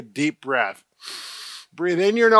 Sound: inhaling

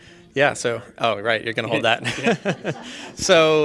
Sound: laughing

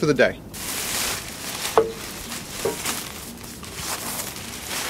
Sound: plastic bag rustles

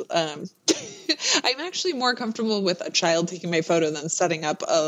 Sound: laughs

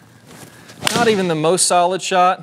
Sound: golf ball strikes wall

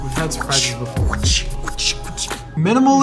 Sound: whishing

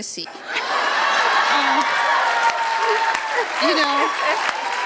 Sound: audience laughs loudly, applause and cheers

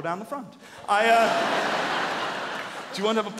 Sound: audience laughing

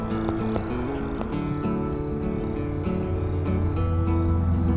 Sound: fireworks crackle

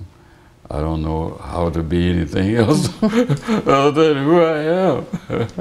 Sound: laughter

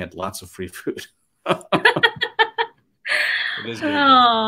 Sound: laugh

